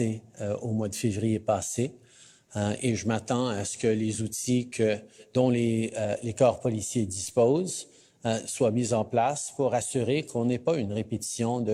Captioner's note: speaking French